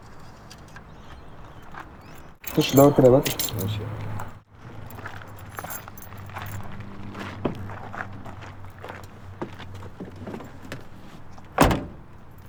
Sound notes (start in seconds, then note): 8.8 car door opens